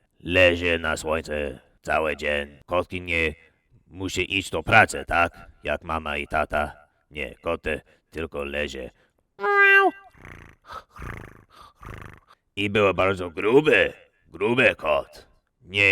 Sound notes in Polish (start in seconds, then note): 9.4 miauu; 10.1 hrrr, hrrr, hrrrr